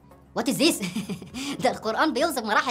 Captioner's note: sound of laughter